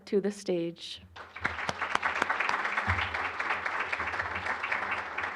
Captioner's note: applause